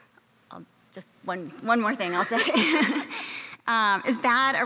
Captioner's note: laughs